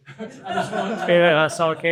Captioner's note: audience laughs